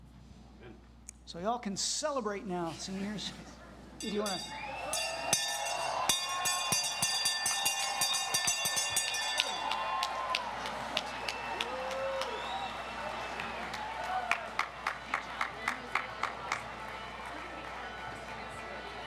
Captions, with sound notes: So you all can celebrate now, seniors. If you want to-- (bell rings) (audience cheers) (people chattering)